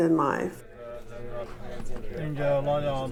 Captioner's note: chanting